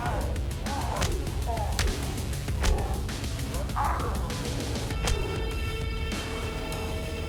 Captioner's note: blow thudding; blows thudding; creature grunting; mellow upbeat music